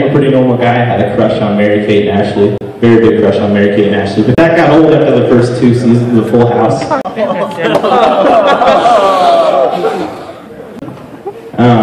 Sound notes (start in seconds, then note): 7.2 laughter